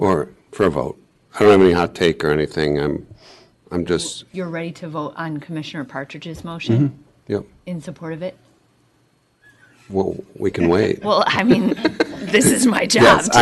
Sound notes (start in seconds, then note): 6.7 clears throat; 10.5 laughter